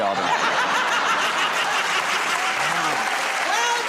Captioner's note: laughter